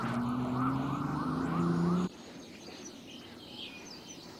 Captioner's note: birds chirping